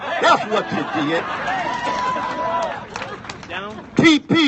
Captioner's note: laughs and applause